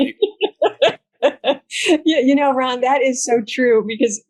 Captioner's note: laughs